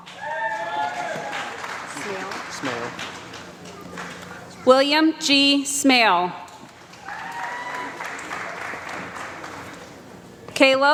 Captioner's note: applause